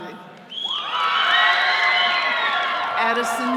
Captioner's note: all cheering